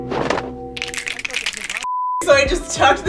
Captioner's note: fingers snapping; beep